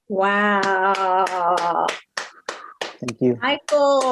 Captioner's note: claps